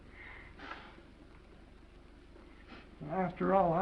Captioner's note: Esther's nose blows